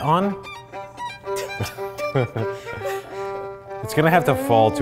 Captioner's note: intense violin music; both laughing